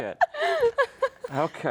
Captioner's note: laughs